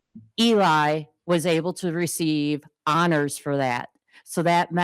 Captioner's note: none